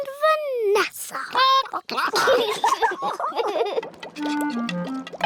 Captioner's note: chickens chatter; children giggle